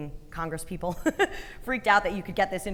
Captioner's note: chuckling